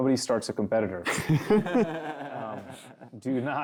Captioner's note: laughter